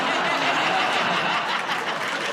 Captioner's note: laughter